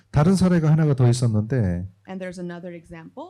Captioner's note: speaking korean